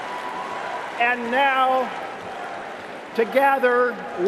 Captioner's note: cheering and applause